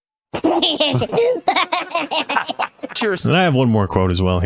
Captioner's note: laughing